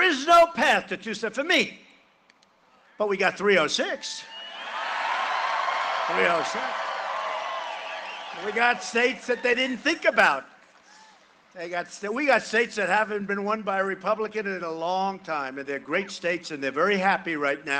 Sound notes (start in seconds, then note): 11.9 cheering and applause